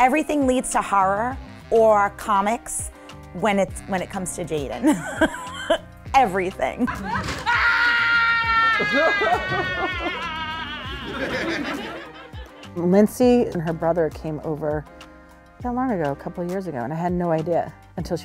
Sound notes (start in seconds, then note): 7.0 actress screams; 8.8 audience laughs; 18.0 actress speaking foreign language